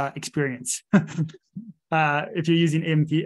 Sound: laughing

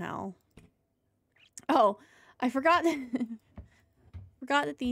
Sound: laughter

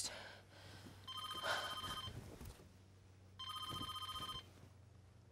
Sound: phone rings

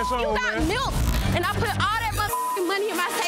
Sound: beep; beep

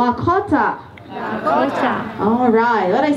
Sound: crowd shouts

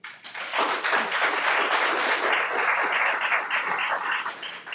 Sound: everyone applauds

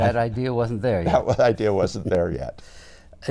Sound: chuckles

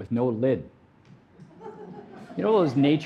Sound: audience laughing

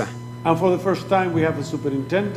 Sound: speaking foreign language

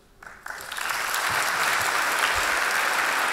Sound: applause

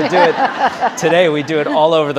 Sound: audience laughing

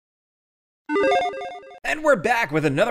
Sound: logo beeps

